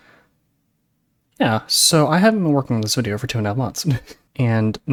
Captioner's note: chuckle